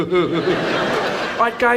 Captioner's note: Ted E laughs; audience laughs